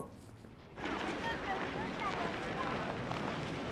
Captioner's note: indistinct chatter